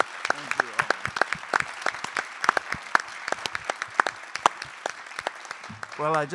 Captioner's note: applause